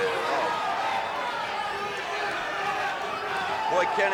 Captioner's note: audience chattering